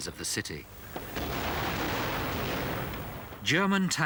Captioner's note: guns firing